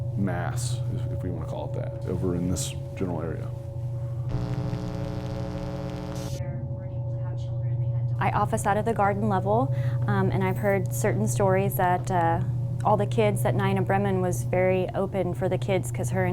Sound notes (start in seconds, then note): 4.2 electronic static sounds